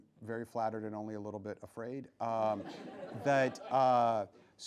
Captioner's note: laughing